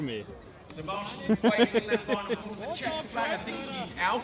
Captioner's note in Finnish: taustapuhetta